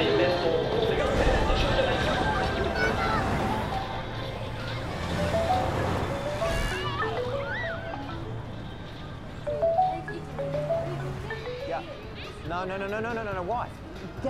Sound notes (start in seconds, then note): 3.6 traffic rumbles past; 5.8 children chatter playfully; 5.8 phone rings; 9.4 phone continues ringing